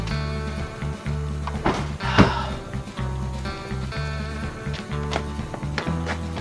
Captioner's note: trunk slams